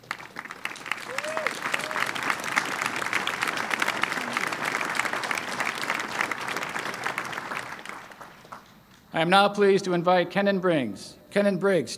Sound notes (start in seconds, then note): 0.0 applause